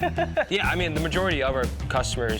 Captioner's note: laughs